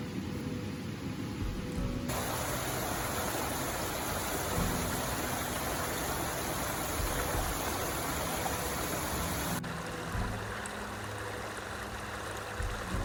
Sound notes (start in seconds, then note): 4.4 stream sound; 9.3 gentle music